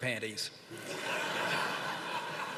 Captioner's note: laughter